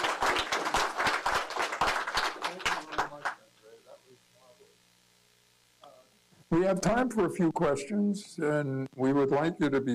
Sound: applause

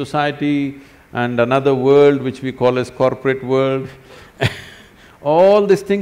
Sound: laughs

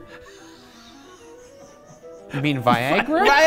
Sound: laughs

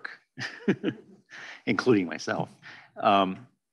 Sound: chuckles

